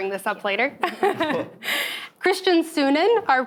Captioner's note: chuckles